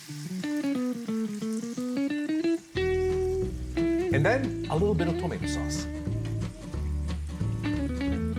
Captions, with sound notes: (smooth rock music) (food sizzles in pan) And then, a little bit of tomato sauce.